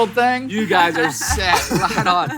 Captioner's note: laughs